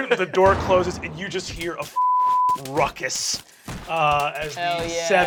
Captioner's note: beeping